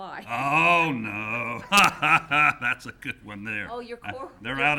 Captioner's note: laughing